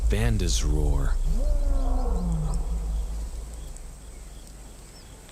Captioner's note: lion roaring